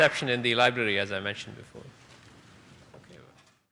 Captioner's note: applause